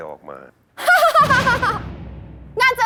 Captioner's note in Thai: เสียงหัวเราะ